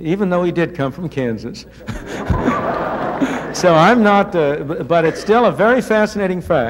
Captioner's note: laughter